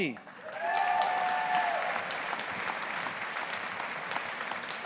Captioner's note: audience applauding